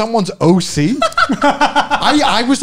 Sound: men laughing

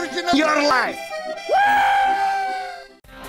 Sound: Demo cheers

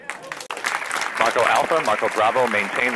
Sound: all clapping; male Radio Voice

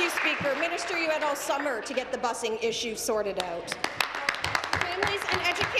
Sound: applause

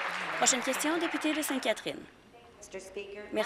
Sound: applause

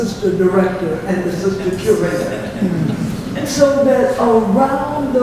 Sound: laughter

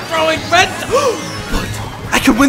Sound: Dunkey gasps

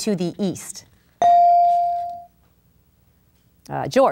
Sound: ding

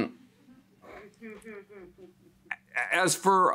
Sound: audience member chuckles

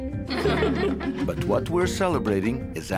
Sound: family laughs

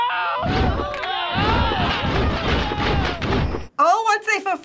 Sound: rapid poofing

